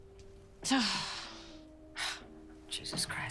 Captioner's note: sighs